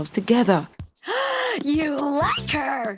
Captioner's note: gasp